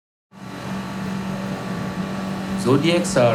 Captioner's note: engine whirring